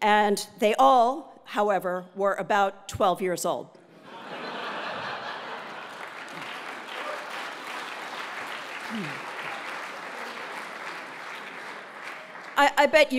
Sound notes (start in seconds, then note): 4.1 laugh; 5.2 applause